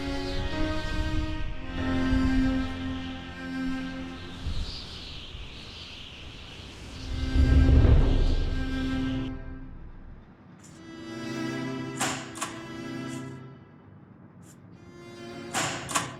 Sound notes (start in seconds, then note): 12.0 time clock punching